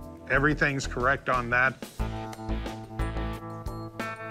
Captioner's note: none